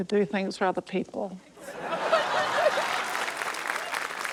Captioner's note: laughter, applause